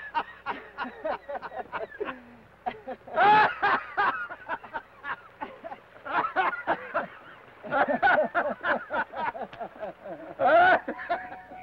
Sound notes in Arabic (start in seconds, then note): 1.1 بن وثيودور يضحكان